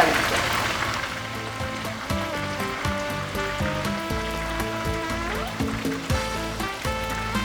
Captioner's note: sizzle